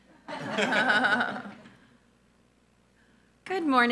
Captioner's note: board and audience laughing